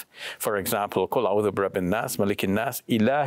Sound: speaks in Arabic

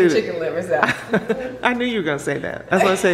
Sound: laughs

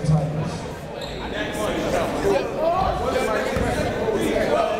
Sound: chatter

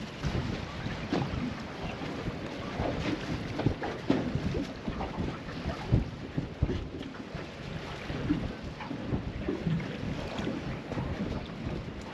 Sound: water lapping

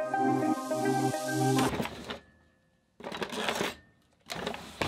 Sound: drawer rattling

